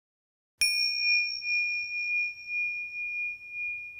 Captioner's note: bell chiming